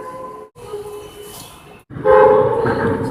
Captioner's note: air Horn; air Horn